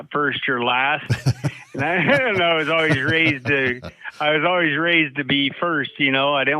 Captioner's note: laughing